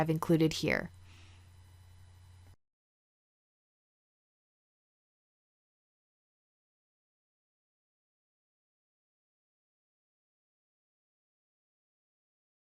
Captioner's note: silence